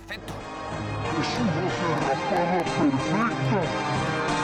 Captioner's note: Latin Spanish